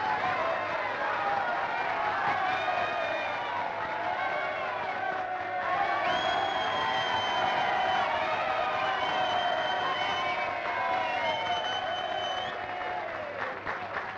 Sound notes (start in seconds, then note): 0.1 applause; 9.1 whistling